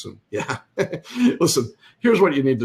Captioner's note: laughs